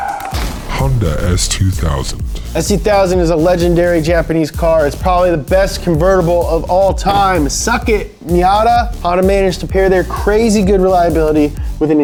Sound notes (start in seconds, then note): 1.3 voiceover